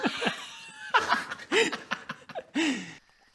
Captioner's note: giggles